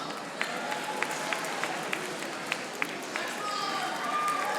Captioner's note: audience applauding